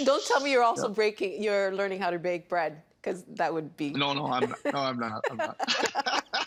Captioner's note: laughter